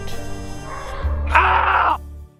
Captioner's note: scream